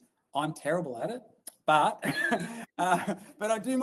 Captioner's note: laughs